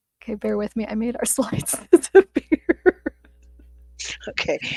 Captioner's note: laughs